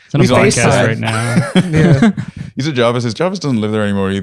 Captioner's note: laughter